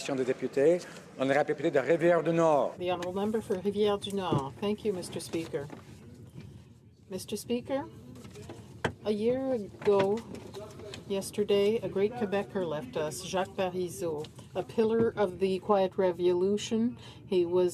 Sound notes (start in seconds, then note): 6.6 speaking French